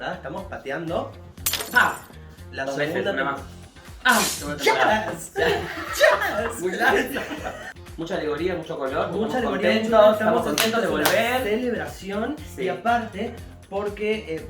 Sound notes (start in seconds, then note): 1.4 glass breaks; 4.1 glasses explode